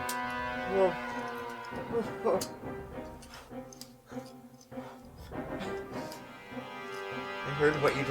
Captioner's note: Alex's muffled groans